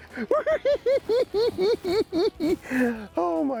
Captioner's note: cackling